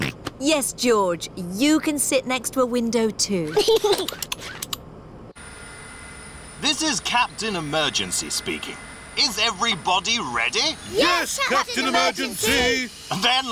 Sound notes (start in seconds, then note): 0.2 snorts; 3.5 giggles